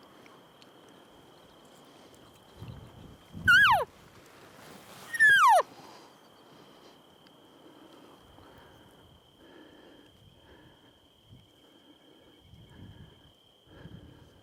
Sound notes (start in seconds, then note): 3.4 elk bugles